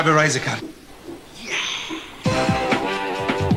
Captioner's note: in affected whisper